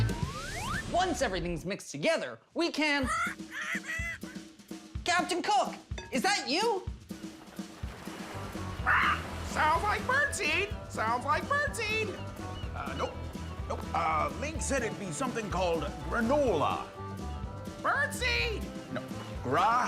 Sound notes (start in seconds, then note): 3.1 parrot squawks; 11.4 squawks